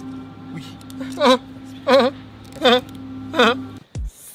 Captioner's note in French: Pleurs